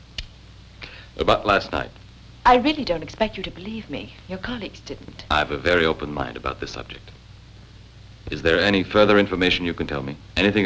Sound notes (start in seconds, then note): none